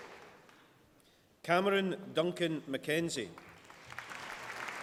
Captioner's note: applause